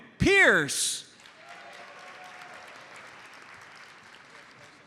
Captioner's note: audience applauds